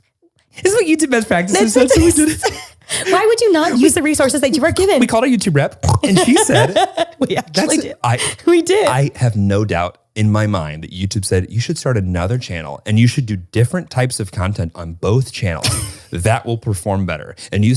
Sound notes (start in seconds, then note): 1.5 laughter drowns out speaker; 5.9 laughing; 6.2 snorts